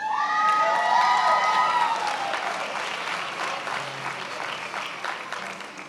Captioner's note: attendees applauding and cheering